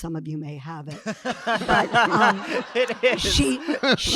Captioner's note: audience laughing